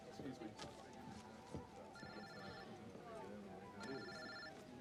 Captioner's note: cell phone rings